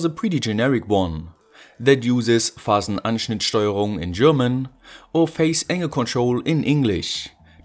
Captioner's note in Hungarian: németül